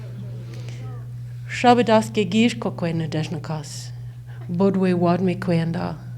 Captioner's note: speaks foreign language